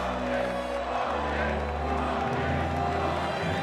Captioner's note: crowd